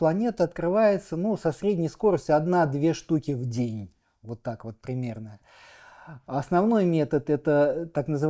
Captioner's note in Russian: вздыхает